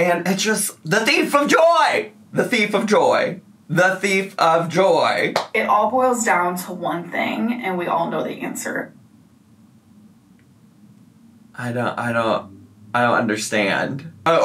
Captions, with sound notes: and it just, the thief of joy! The thief of joy. The thief of joy. (palm smacking) - It all boils down to one thing, and we all know the answer. - I don't, I don't, I don't understand.